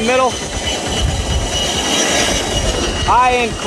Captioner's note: aircraft whirring